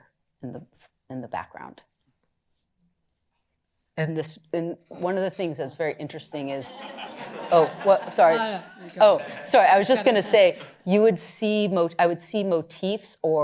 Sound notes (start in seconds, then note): 6.6 laughter